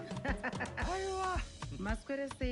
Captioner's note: laughs